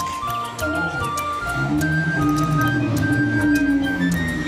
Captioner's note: dinosaur roaring